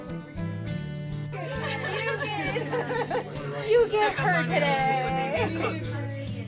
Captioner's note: laughs